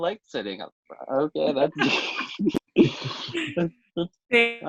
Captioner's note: laughs